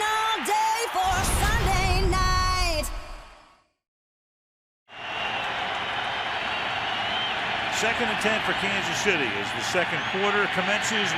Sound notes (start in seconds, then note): 1.0 theme music; 4.8 cheering